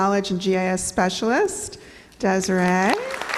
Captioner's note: clapping